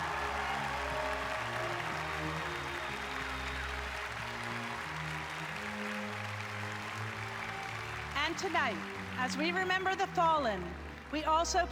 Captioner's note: applause